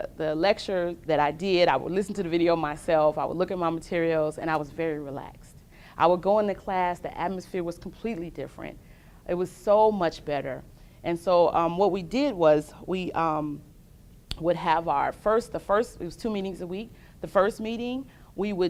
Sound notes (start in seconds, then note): none